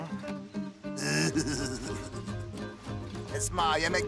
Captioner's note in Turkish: Gülüyor